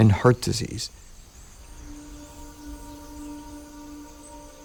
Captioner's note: insects chirping